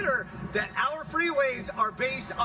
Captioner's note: none